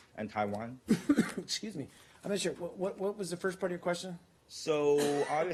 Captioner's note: coughs